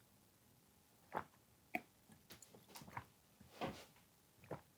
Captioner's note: swallowing glugs, as drinks his water